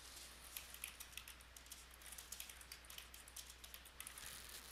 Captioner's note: sound of typing